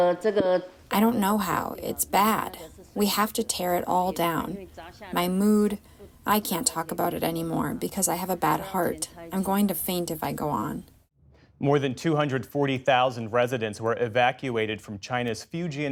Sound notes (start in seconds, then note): 1.3 through translator